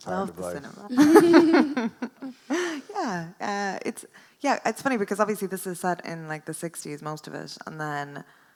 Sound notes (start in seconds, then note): 0.7 laughs; 0.8 chuckles